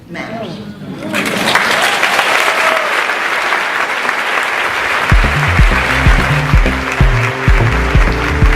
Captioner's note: cheers; applauds